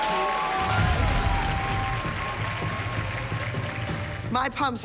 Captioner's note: cheering and applause